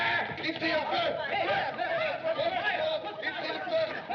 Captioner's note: screams, Shouts In French; excited Chattering